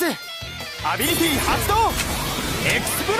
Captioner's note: explode